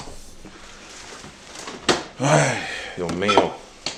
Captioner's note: heavy breathing